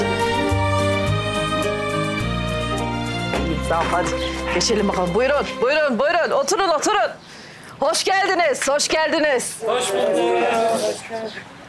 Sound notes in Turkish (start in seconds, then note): 9.4 Hep bir ağızdan